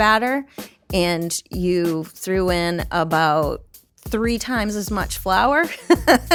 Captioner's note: laughs